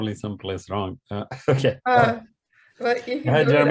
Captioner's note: laughing